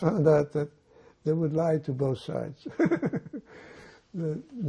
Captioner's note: laughing